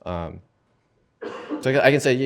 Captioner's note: cough